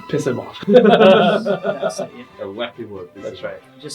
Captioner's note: all laugh